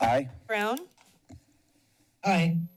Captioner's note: mouse clicks